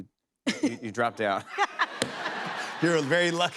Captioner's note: laughter